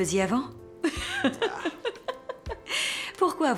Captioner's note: laughs